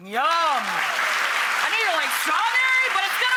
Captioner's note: cheers and applauds